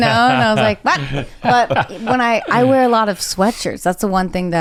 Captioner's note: laughing; laughs